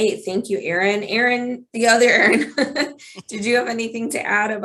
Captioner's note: laughs